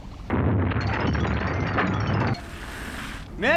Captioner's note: explosion